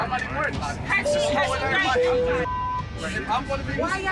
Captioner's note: alert chimes